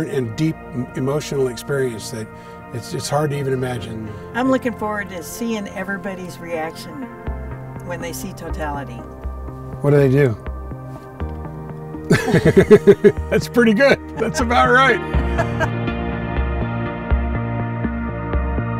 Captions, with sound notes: and deep emotional experience that it's hard to even imagine. - I'm looking forward to seeing everybody's reaction when they see totality. - What do they do? (both laughing) That's pretty good. That's about right. (mellow music)